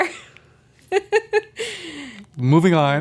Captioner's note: laughs